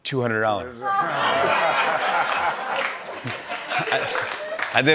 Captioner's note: laughter